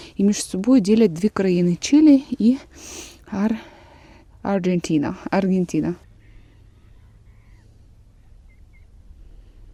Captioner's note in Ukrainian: сопіння